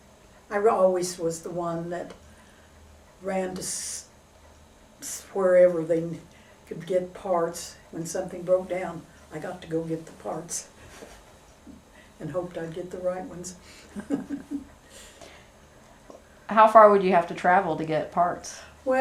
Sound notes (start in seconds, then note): 13.8 laughs